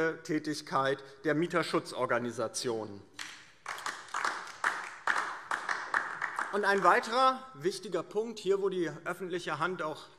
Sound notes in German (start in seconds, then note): 3.1 Beifall DIE LINKE